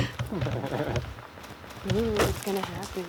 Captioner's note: laughing